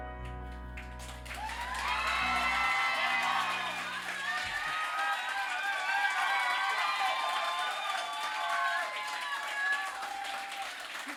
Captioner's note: crowd applause